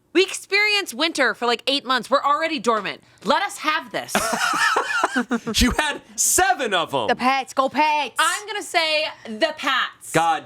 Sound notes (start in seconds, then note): 4.1 laughing